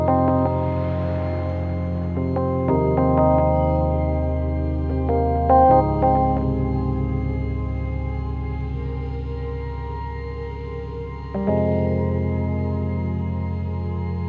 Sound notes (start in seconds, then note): 1.3 tires crushing pavement